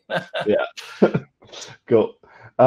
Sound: both chuckle

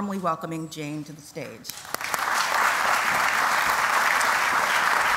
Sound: applause

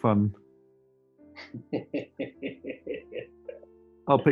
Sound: chuckling

